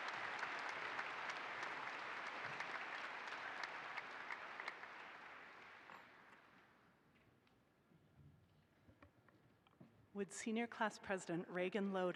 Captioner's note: applause